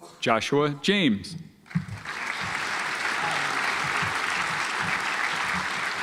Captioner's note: audience applauds